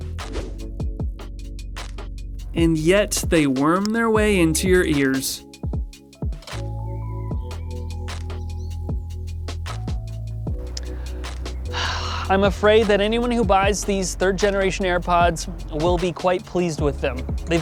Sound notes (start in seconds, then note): 0.2 upbeat music; 6.2 birds chirping; 6.2 upbeat music